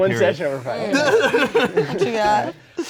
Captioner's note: laughing